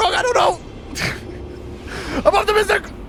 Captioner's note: laughing